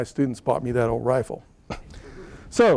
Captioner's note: laughter